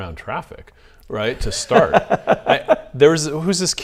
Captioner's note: laughs